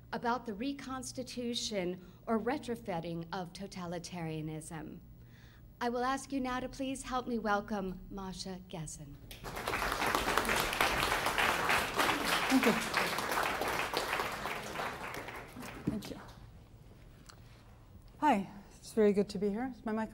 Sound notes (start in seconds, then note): 9.3 applause